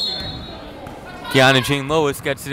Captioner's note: whistle blowing